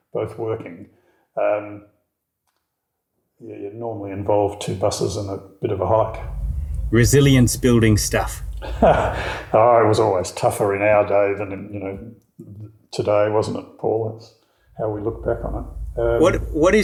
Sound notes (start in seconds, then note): 8.2 laughing